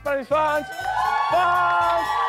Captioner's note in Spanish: Ovación